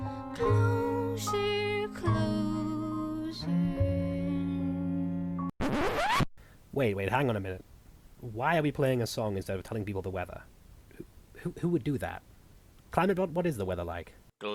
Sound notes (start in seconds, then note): 5.6 record Scratch